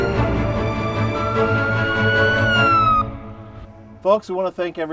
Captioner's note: sirens blaring